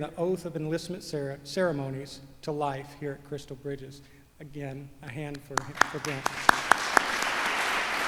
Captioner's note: applause